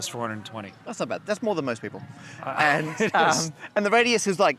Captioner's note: laughs